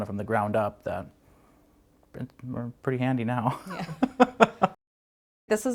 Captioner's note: laughs